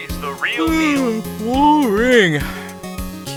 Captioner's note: yawn